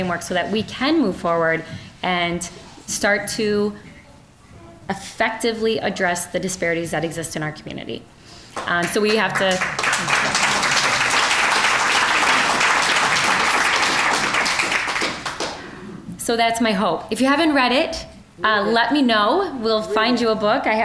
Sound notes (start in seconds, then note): 10.2 applause